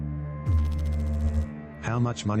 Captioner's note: electrical noise